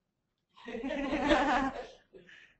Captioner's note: laugh